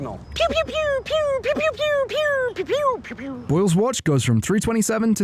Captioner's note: laser gun noises ig?